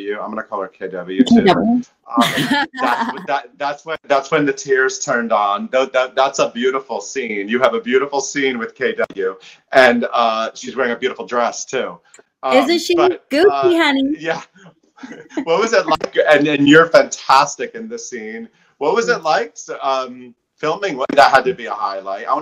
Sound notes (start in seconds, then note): 2.2 laughing; 15.0 chuckling